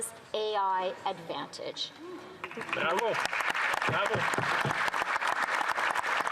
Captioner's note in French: voix de l'interprète